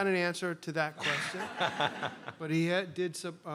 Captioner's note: laughter